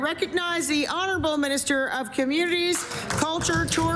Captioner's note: applause